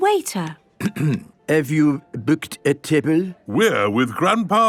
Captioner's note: clears throat